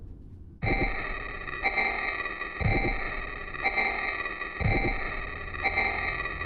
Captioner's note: soft musical score; heartbeat thumps; eerie distorted music